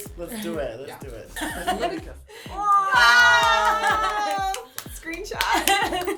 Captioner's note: screaming and cheering